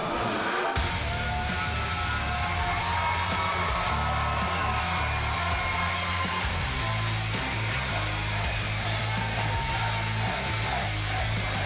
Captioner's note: crowd cheering